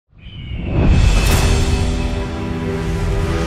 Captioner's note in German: Adlerschrei...Titelmusik